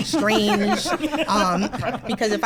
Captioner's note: laughs